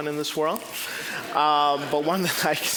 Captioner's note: audience laughing